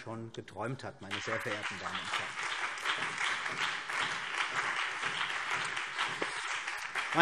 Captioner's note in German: Beifall CDU, BÜNDNIS 90/DIE GRÜNEN und SPD